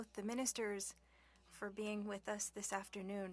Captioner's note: speaking French